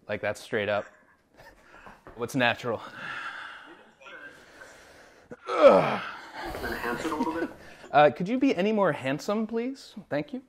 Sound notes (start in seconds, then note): 2.6 heavy breathing; 5.4 grunting